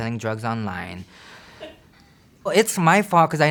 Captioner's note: staff laughs